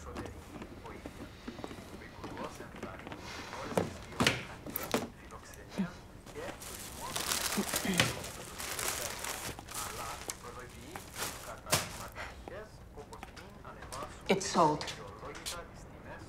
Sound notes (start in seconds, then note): 3.3 sighs; 7.7 clears throat